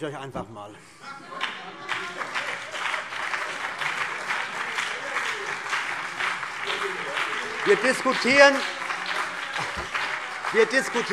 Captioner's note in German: Beifall BÜNDNIS 90/DIE GRÜNEN und vereinzelt CDU